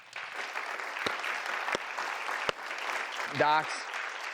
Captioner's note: audience applause